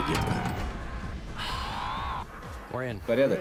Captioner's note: exhales deeply